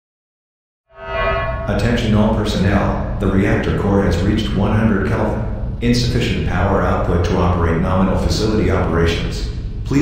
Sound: announcement Chime

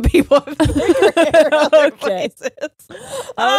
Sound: both laughing

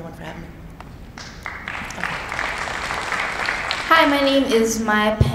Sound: applauding

